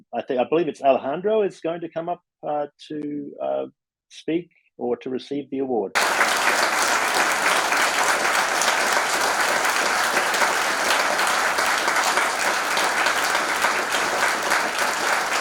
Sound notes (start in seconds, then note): 5.9 applause